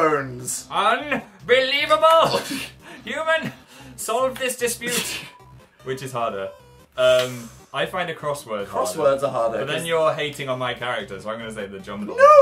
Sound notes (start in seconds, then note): 2.0 laughs; 7.2 inhales sharply